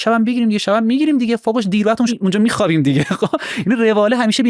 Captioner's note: laughs